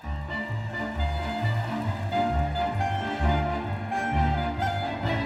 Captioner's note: crowd cheering; upbeat music